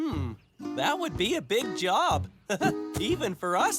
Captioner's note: chuckles